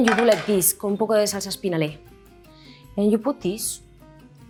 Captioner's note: speaks in Spanish